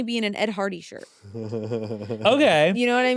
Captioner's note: chuckles